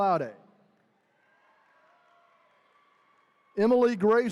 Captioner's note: attendees cheering